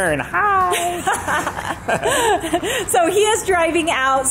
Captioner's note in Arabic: يضحك